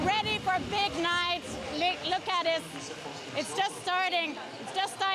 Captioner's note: cheering